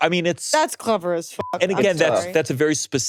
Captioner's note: beeps